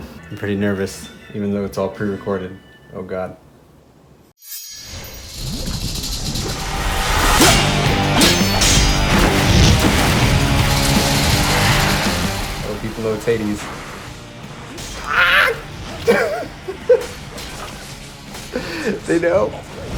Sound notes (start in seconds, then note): 4.4 chimes; 7.2 sword clanks; 15.8 laughing